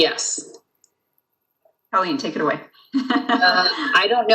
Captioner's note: laughs